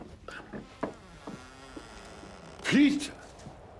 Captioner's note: door creaks